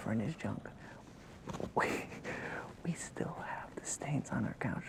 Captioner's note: laughs